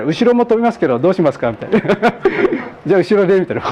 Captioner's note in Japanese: 笑い